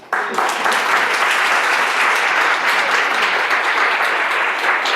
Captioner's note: audience applauding